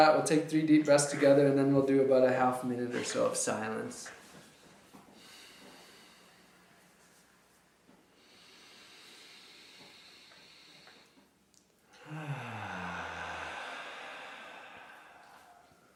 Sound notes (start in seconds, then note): 4.4 deep breaths; 4.4 silence